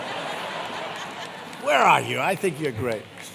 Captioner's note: applause